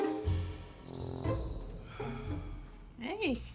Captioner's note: Ian sighs